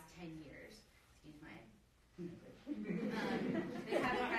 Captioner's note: drowned out by audience laughing